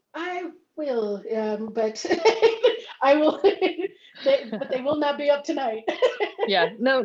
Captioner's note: laughs